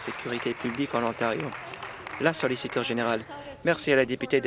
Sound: applause

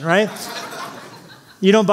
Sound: laughter

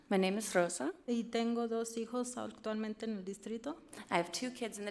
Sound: speaks foreign language

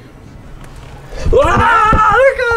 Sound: screams

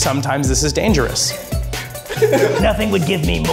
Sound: crowd laughing

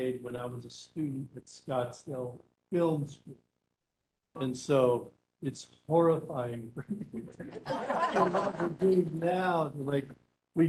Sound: laughing

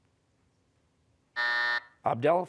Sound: buzzer

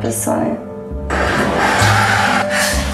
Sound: huffs tear gas

